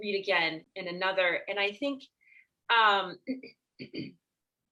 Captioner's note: clears her throat